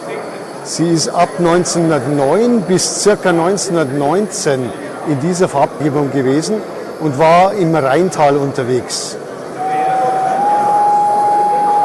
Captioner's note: whistle